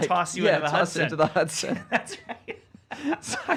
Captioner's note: laughing